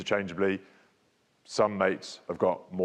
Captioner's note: speaks faintly